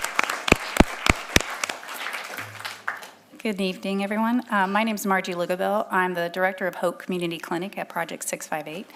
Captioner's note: applause